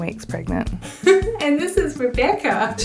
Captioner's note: laughing